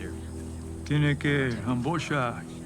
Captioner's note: speaking Spanish